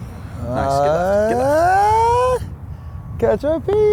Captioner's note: screams